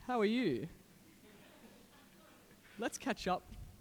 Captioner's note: audience laughing